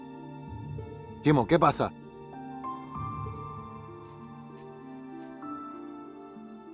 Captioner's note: speaking in foreign language; brooding music continues